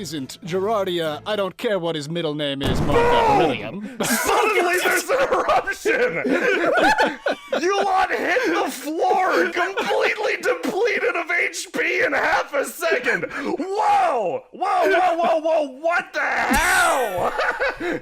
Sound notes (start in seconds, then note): 3.1 yelling; 5.2 laughter; 16.1 surprised